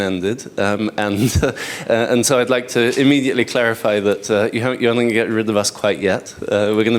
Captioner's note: chuckles